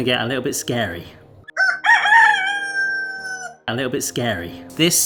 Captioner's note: eerie music; cockerel crowing